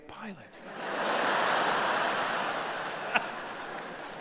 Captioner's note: audience laughing